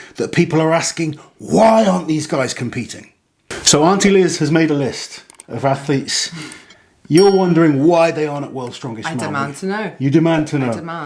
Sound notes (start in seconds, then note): 7.1 bell dings